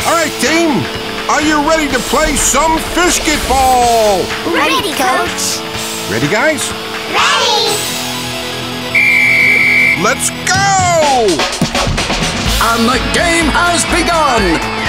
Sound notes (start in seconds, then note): 8.8 whistles